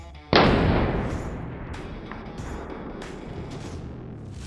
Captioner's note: loud gun shot